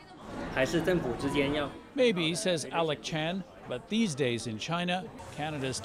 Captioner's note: speaking chinese